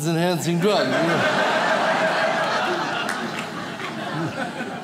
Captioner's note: audience laughs